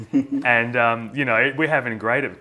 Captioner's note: laughs